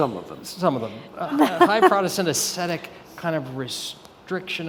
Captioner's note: laughs